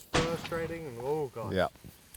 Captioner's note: gun shot